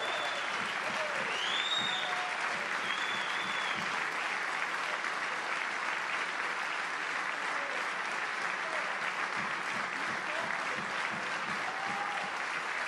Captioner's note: applause